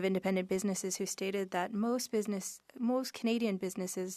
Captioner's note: speaking French